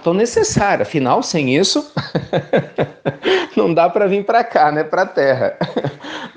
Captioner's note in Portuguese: risos